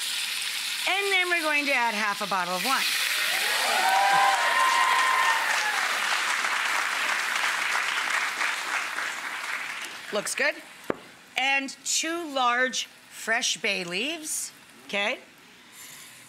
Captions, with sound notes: and then we're going to add half a bottle of wine. (pan sizzling) (audience cheers and applause) Looks good, and two large fresh bay leaves, okay?